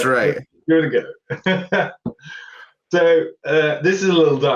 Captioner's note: laughter